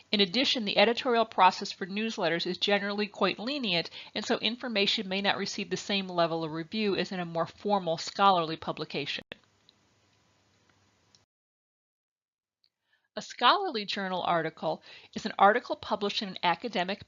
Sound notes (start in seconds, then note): 9.5 silence